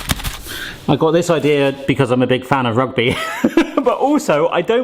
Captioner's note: laughs